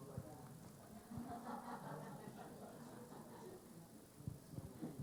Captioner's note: scattered laughing